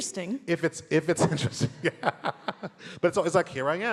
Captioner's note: laughs